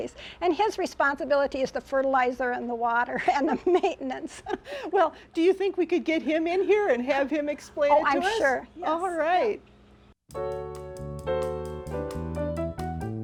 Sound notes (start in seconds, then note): 4.4 laughs; 10.3 upbeat music